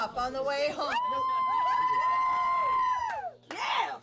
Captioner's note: cheering